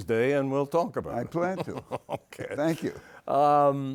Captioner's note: chuckles